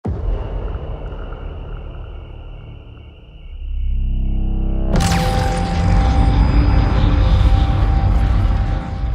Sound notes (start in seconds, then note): 0.4 crickets